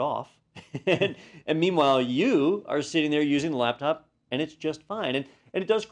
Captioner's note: laugh